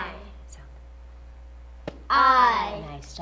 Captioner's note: tap